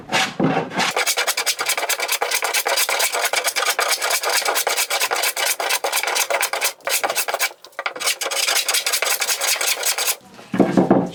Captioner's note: trimming wood noise continues; blade trimming wood noise in fast-pace motion